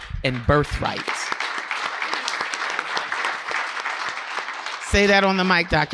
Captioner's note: audience clapping